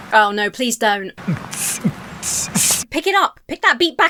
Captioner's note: student beatboxing poorly